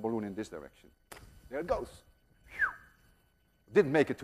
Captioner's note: whistles